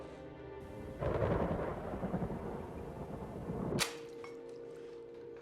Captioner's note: loud thundering